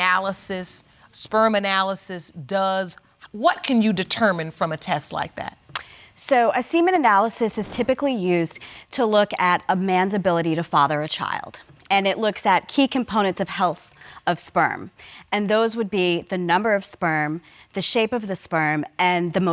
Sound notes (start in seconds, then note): none